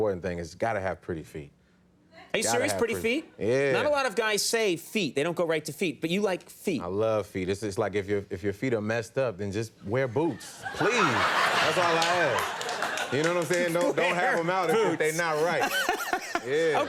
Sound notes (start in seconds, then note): 10.4 audience laughs loudly; 15.6 Conan laughs